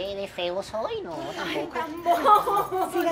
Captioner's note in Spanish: Risas